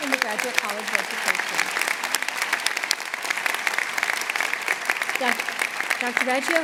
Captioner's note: applause